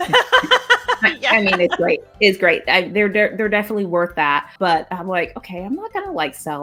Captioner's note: both laugh